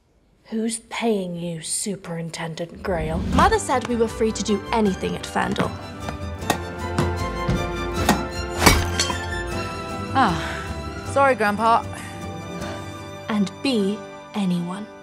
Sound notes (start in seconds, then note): 6.4 hitting ball; 8.6 marble breaking